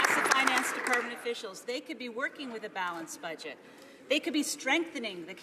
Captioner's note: some applause